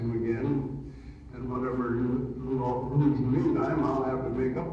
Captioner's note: audio distorts